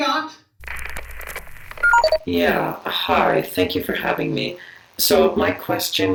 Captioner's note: distorted